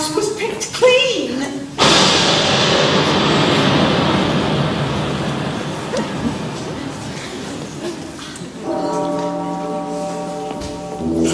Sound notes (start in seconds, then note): 1.7 thunder; 8.4 Big Ben tolls